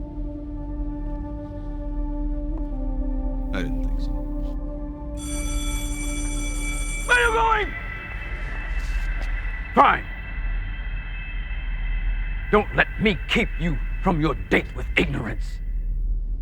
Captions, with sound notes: I didn't think so. (bell rings) Where are you going?! Fine! Don't let me keep you from your date with ignorance. Get out!